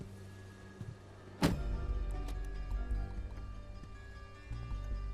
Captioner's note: case lid slamming